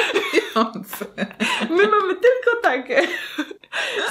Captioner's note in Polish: śmiech